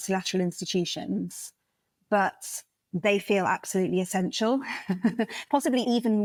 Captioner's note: laugh